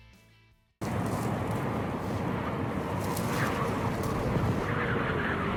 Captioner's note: wind howling